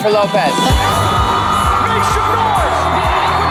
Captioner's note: audience cheering